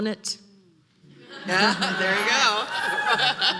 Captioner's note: audience laughing